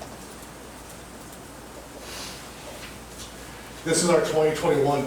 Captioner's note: none